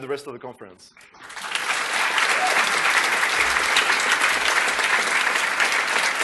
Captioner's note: applause